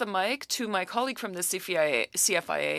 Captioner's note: speaking French